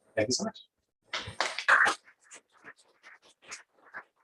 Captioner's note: applause